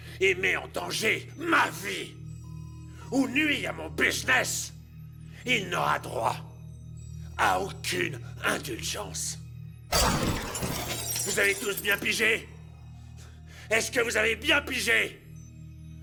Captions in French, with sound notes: qui met ma vie en danger, qui risque mes affaires, pas de discussion, pas de discussions ! (tirs d'armes à feu) Avez-vous la photo ? Avez-vous la photo ?